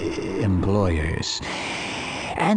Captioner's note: inhale